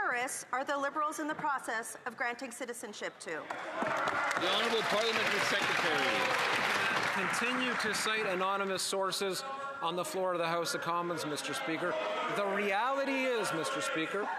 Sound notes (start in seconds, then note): 9.6 some Applause